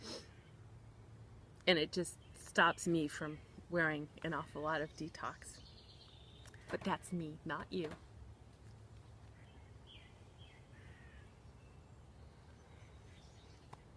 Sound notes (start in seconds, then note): 0.0 sniffs; 6.0 birds chirping; 9.1 birds chirping